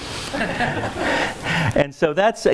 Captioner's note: laughs